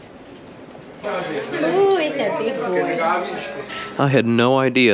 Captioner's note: cat Voice